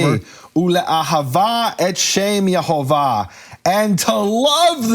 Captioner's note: speaking in foreign language